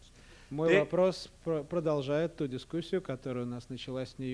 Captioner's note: non-english speech